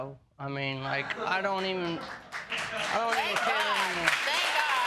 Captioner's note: laughing